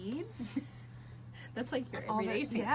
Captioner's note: laughs